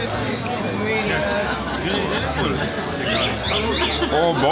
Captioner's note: crowd